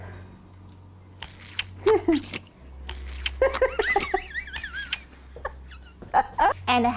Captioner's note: eating laughing